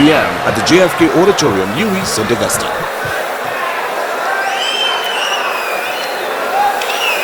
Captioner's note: wild applause and cheering for 22 seconds